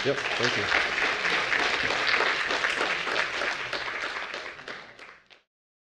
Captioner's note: applause